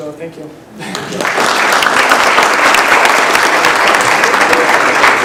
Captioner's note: applause